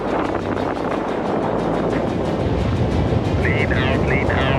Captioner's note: wind rustling